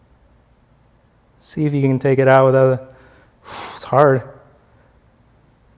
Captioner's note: blows air